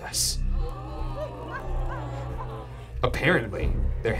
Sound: audience gasps

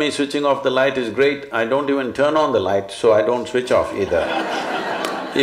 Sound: laughter

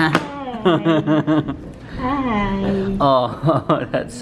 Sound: laughter

